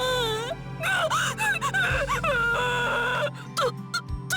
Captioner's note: bawl